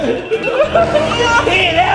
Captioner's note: laughs